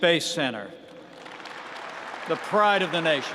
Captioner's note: applause